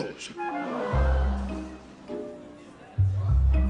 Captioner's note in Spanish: Exclamaciones